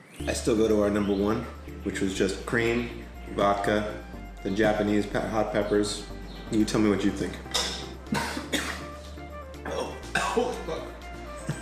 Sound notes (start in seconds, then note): 8.0 coughing